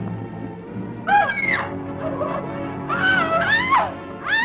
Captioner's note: screaming